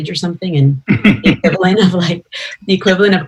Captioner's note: laughter